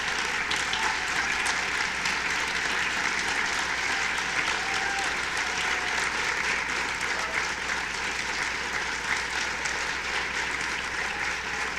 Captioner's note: applause